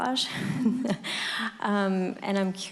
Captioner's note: laughter